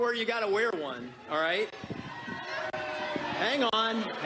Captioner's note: booing